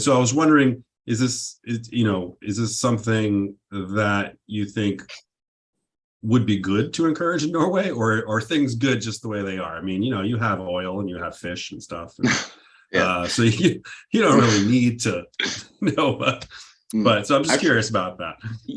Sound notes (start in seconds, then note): 13.0 laughs